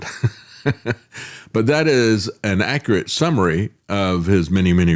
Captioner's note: laughs